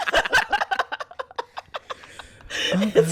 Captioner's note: laughter